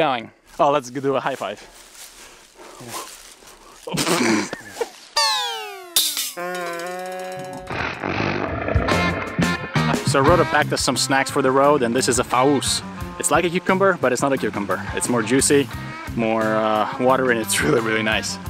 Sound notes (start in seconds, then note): 3.8 silly noises; 5.2 blows raspberry